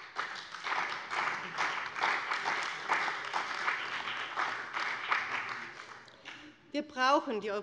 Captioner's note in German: Beifall bei dem BÜNDNIS 90/DIE GRÜNEN und der CDU